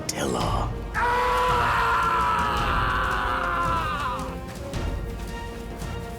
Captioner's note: screams